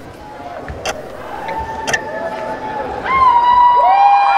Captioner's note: shouting; howling; crowd howling